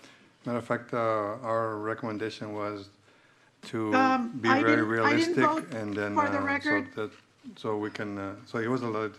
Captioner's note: clears throat